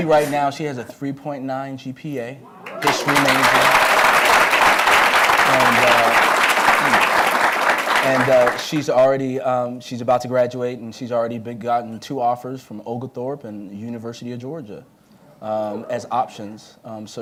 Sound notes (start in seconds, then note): 2.6 applause